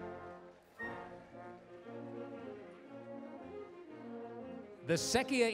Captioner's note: applause